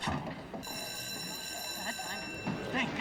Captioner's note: bell ringing